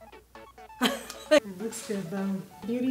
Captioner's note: laughs